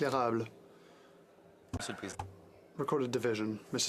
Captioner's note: speaking French